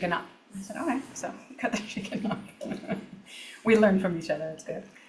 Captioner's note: laughs